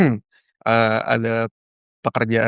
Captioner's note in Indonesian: berdehem